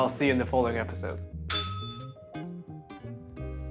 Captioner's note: bell rings